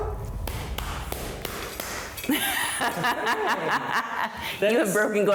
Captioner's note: claps hands and laughs